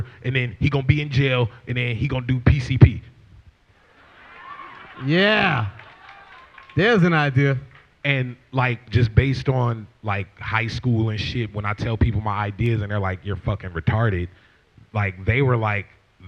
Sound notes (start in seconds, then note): 3.9 laughter